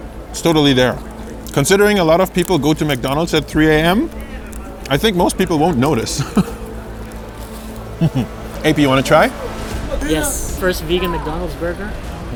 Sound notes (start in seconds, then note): 7.9 chuckles